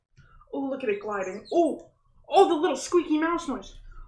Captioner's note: scissors squeak across tape